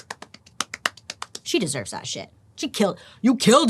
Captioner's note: clapping